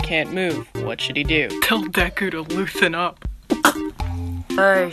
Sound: spits

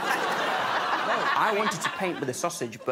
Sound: laughter

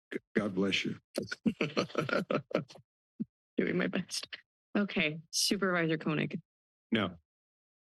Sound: laughs

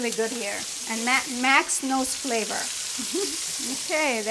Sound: chuckles

